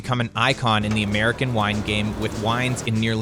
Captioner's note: grapes falling